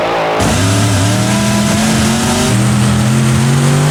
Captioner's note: engine growls; engine purrs